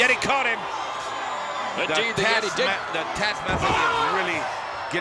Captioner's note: applause